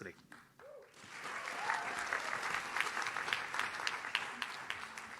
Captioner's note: audience claps